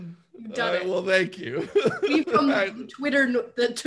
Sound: laughing

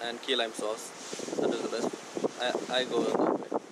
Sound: wind blows

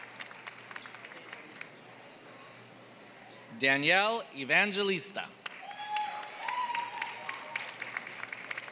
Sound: applause

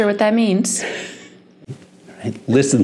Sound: chuckling

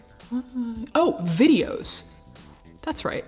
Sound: murmuring

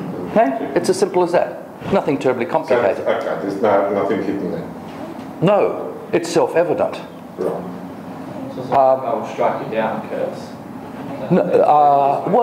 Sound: indistinct conversation

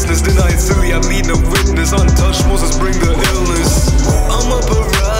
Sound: woo, woo, woo

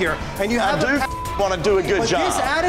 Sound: beeping

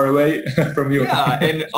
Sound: laughs

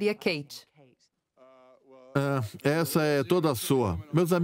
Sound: stammers

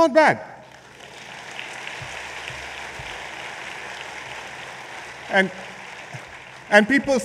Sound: applause

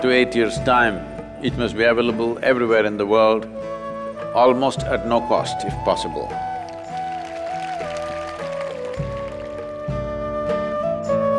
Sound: applause

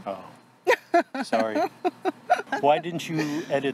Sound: laughs

